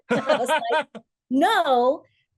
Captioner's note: laughs